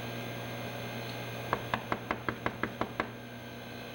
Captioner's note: door knocking